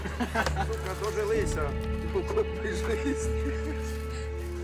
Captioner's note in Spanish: audio hablado en ucraniano